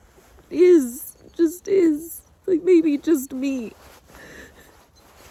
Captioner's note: cries softly, trails off